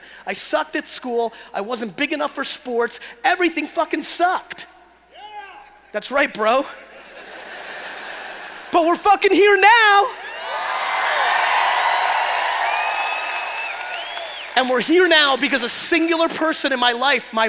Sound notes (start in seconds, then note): 7.3 laughing; 10.1 cheering